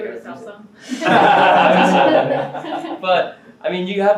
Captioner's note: all laugh